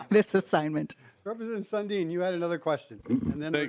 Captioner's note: laughing